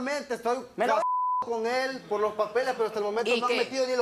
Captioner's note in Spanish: Bip